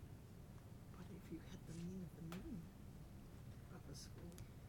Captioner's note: whispering